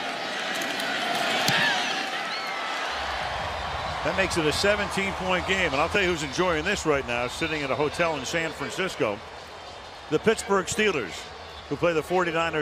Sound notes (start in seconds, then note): 3.7 cheering